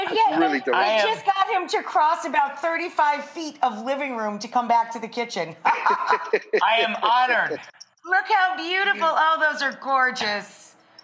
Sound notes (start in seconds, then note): 5.6 laughing